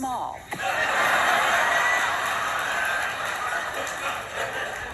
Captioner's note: laughter